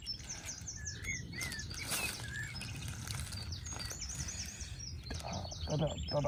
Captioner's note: birds chirping